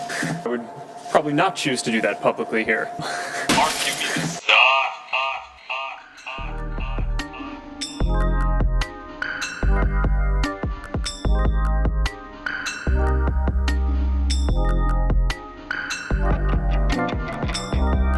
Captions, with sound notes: Would probably not choose to do that publicly here *ZUCC Hiss*(echo)